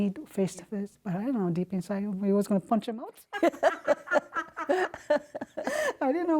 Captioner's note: laughter